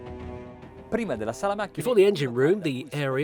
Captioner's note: speaking foreign language